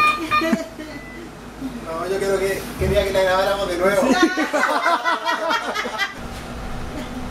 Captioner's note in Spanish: risas de todo el bus